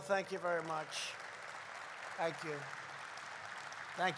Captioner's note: applause